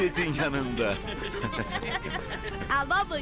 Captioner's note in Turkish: Gülme sesi